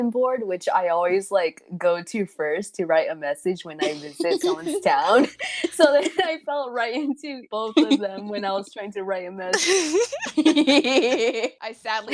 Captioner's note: laugh; cackling